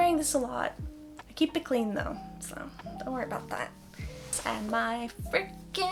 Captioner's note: voice transcends into a troll-like croak